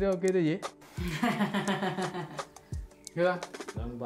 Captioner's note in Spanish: Risas